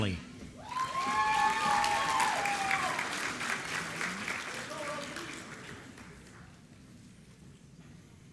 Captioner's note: applause